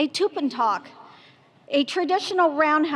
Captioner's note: speaking foreign language